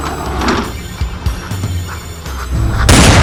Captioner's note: door opens